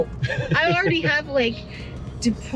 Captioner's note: laughs